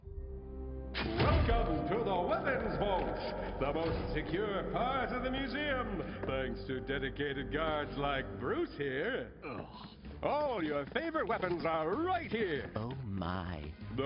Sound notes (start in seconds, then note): 9.4 disgusted groan